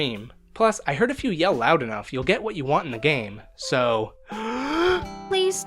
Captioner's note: big inhale